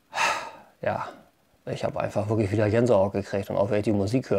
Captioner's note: sigh